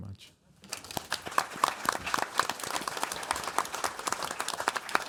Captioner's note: audience applauds